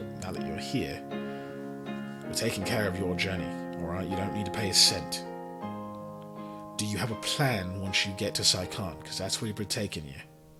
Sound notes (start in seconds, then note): none